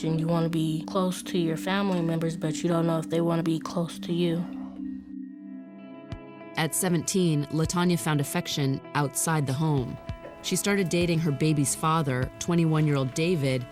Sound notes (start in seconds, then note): none